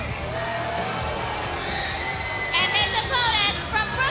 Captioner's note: crowd cheering